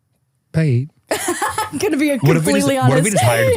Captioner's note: laughs